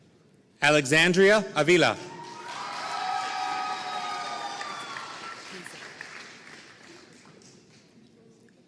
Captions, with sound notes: Alexandria Avilla (audience cheering and applauding)